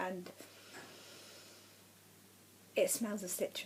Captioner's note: sniffs loudly